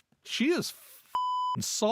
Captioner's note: beep